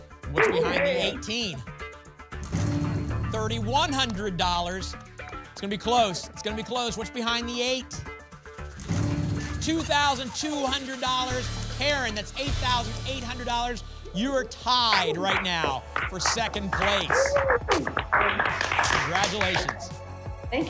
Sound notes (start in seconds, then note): 17.3 applause